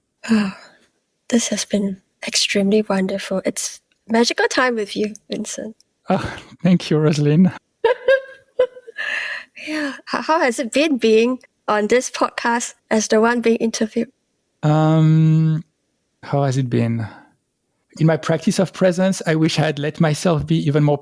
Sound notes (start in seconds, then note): 6.1 sigh; 7.8 laugh